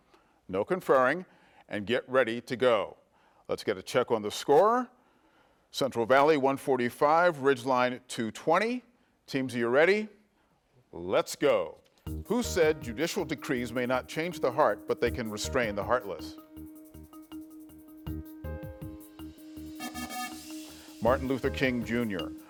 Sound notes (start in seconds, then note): 16.7 pensive music; 19.7 buzzer buzzes